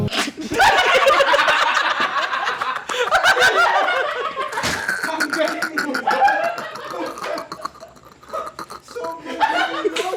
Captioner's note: laughter